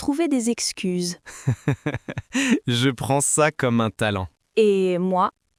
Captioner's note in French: rire